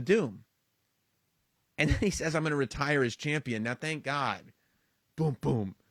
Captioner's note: laugh